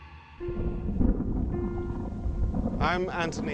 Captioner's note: thunder rumbles